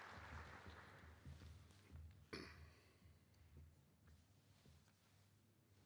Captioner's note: applause